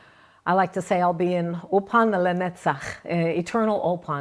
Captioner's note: speaking in Hebrew